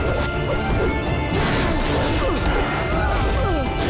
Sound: grunting

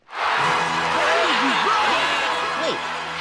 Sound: crowd cheers

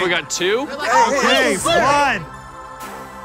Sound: all making commotion; upbeat music

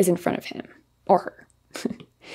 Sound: giggles

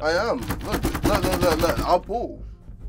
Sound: door clanging

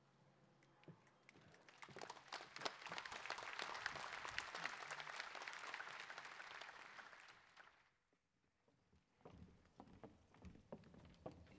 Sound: applause

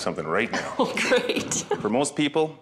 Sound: laughing

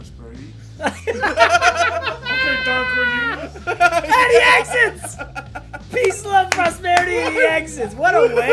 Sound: laugh

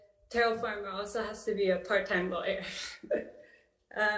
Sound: chuckles

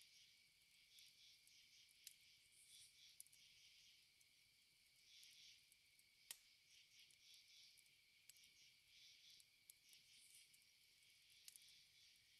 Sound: crickets & forest sounds

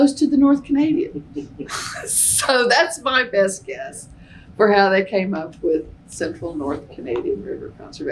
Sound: laughter

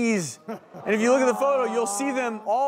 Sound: audience gasping

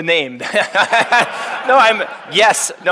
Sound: all laughing

